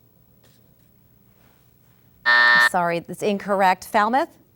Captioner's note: buzz